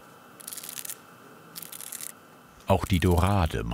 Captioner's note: scratching noises